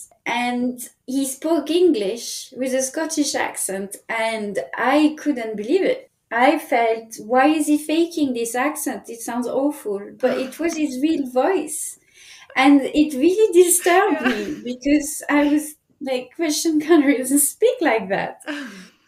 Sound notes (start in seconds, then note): 13.6 laughing